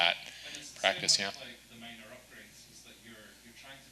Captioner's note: speaks faintly